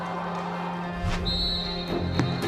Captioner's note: whistle